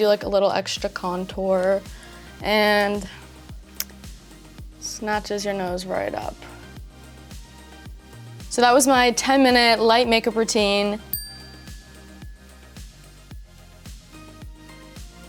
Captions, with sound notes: like a little extra contour and snatches your nose right up. So that was my 10-minute light makeup routine. [bell rings]